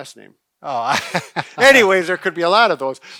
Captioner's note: laughing